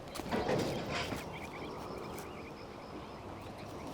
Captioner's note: metal banging